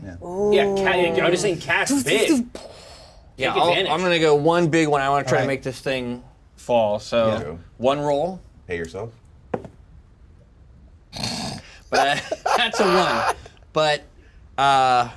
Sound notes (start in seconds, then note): 9.6 die thumps; 11.1 snorts